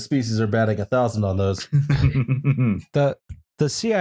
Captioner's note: chuckles